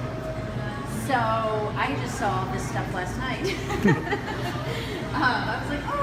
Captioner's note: laughs